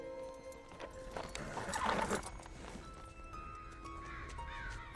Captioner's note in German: Wiehern